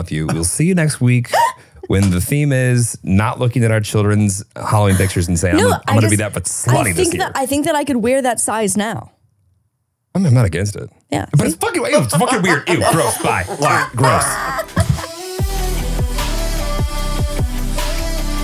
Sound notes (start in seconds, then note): 14.5 laughs; 15.6 upbeat music